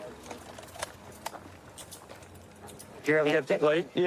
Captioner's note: handcuffs clicking